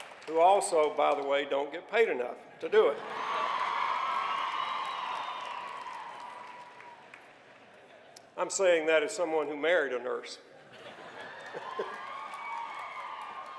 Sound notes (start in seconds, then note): 0.0 cheering; 2.8 cheering